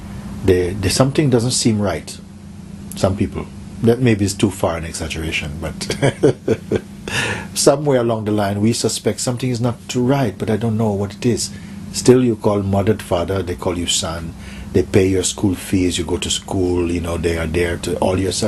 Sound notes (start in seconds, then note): 5.7 Mooji laughs